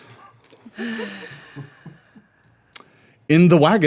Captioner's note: Tarrial sighing